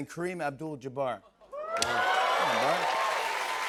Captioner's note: cheers and applause